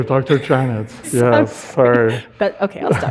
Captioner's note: audience laughing